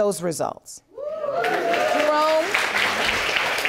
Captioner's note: audience cheering and applauding